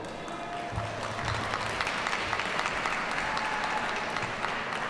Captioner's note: audience applauds